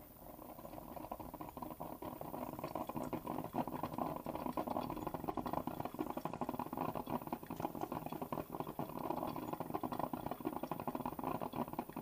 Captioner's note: coffee-brewing